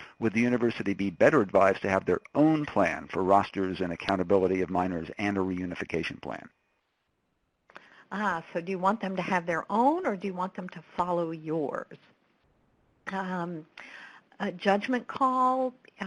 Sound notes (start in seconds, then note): 8.1 voiceover